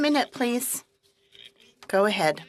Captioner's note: speaking French